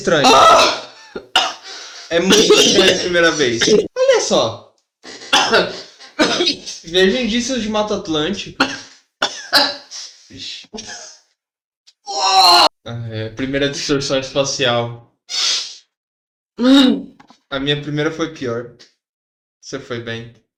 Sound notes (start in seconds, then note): 0.3 cough; 3.6 cough; 5.2 cough; 9.2 cough